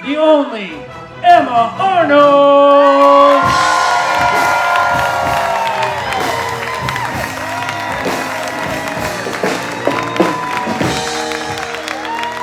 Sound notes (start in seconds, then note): 4.5 audience applauding and cheering; 8.9 upbeat live band music